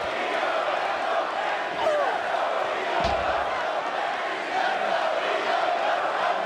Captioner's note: crowd chants "Let's go Iyo/Let's go Mandy"